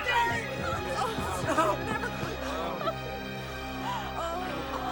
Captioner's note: people chattering